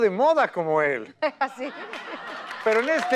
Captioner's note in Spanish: Ríe